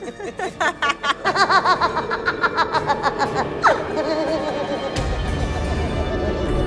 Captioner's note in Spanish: Risa malvada